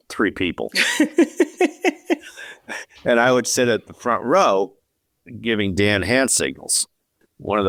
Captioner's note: laughs